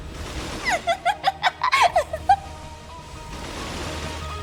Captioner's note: giggles